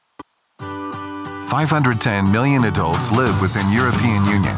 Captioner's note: male Voice